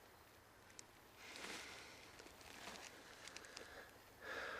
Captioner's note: insects chirping